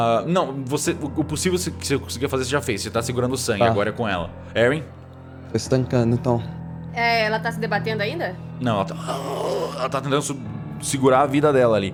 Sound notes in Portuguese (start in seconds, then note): 8.9 Grunhidos